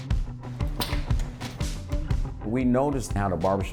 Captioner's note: upbeat percussive music; light switch clicking